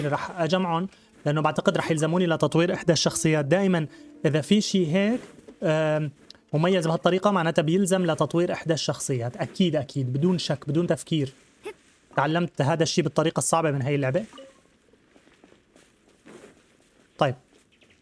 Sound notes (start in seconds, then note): 0.0 grunting; 1.9 gentle music; 4.5 grunting